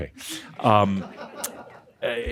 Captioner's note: more chuckles